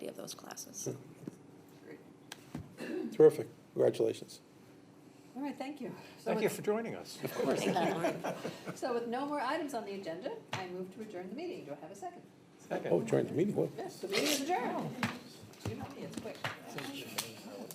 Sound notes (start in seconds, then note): 7.2 laughter